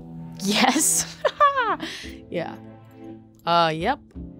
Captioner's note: laughs